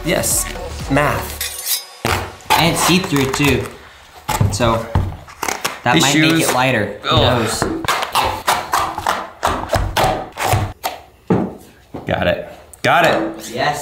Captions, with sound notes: - Yes. Math. - And it's see through too, so that might make it lighter. Who knows? (slicing) - Got it. Got it.